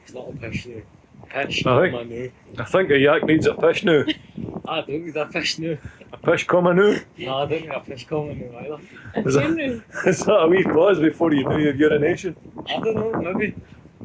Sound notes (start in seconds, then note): 3.9 laughter; 9.5 laughter